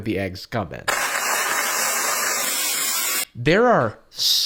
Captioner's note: pouring grains